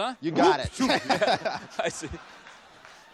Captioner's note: chuckles